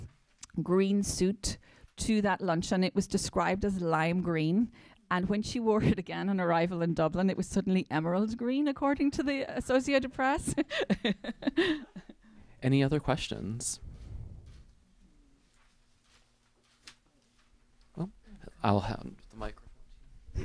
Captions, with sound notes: green suit to that luncheon. It was described as lime green. And when she wore it again on arrival in Dublin, it was suddenly emerald green according to the associate press. (laughing) - Any other questions? Well, I'll have the microphone.